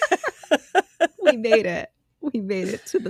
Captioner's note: both Laughing